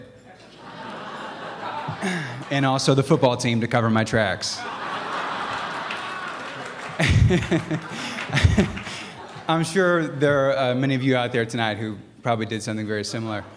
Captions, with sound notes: [Laughter] And the football team to cover my tracks. [Laughter, applause] I'm sure there are many of you out there tonight who probably did something very similar.